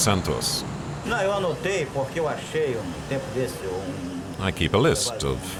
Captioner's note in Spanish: <i>habla en portugués</i>